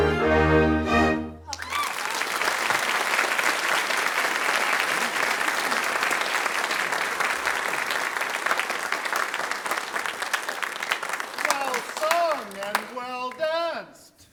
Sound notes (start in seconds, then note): 1.4 applause